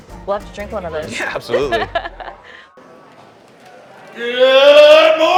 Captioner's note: laughing